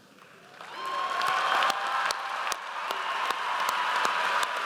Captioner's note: audience applauds